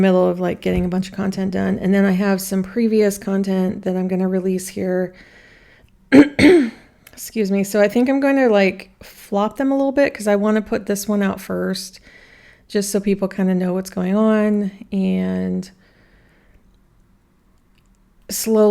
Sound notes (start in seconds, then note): 6.1 clears throat